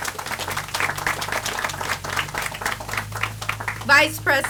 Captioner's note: audience applauds